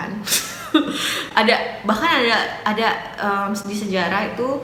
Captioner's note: laugh